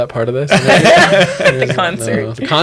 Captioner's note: laughter